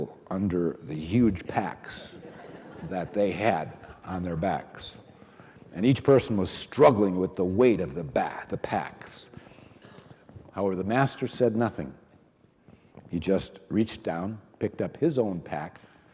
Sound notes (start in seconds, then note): 3.5 audience laughing